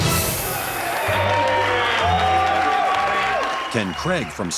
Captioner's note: Gritos e aplausos